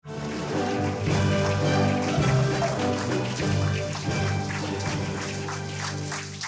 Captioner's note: audience applauding